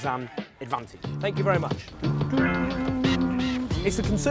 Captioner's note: humming